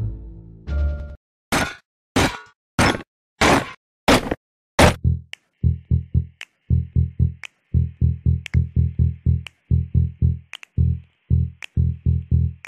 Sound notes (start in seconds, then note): 1.5 stomping